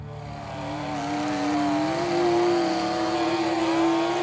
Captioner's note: elektrikli testere vızıldar